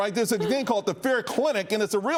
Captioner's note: laughter